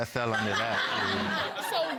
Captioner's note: audience laughing